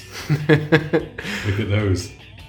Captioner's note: laughs